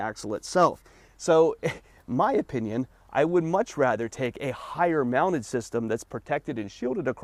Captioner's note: chuckles